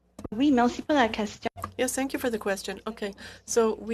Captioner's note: speaking French